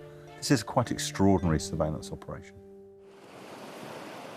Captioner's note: waves whooshing